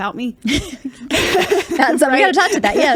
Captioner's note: both laugh